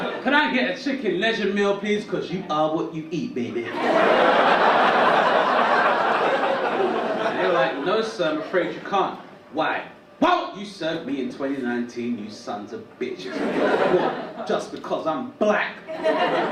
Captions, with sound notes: Can I get a chicken legend meal, please, 'cause you are what you eat, baby? (audience laugh) And they were like, no sir, I'm afraid you can't. Why? Why won't you serve me in 2019 you sons of bitches? (audience laugh) Just because I'm black.